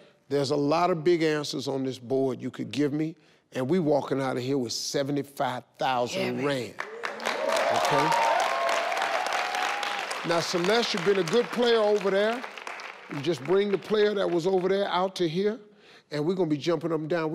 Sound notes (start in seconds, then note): 6.8 audience cheering; 8.2 audience clapping